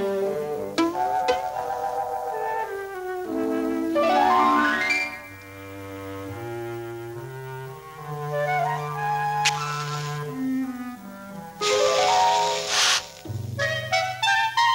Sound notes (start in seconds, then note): 0.7 boing, boing; 4.0 piano flourish; 9.4 chhk!; 11.4 fire crackling